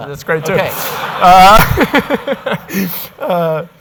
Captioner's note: audience laughing